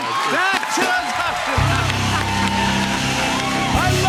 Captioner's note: cheers and applause